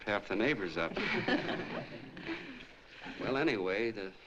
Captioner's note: laughter